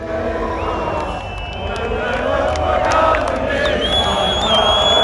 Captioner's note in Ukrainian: оплески